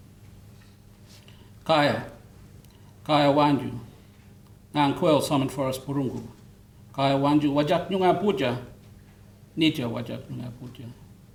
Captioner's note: foreign Language Spoken